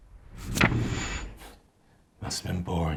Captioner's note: memory image whooshes; page rustles; scoffs